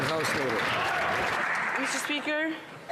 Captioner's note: some Applause